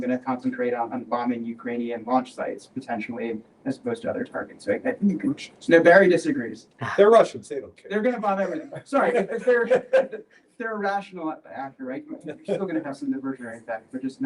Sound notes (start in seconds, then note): 9.0 chuckle